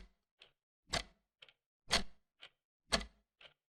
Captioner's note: clock ticking